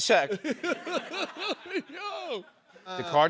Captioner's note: laughter